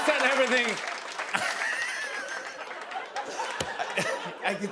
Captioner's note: laughter